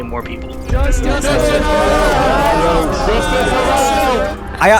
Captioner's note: shouting